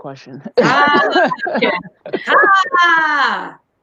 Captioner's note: laughing